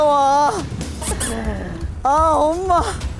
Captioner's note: tottering steps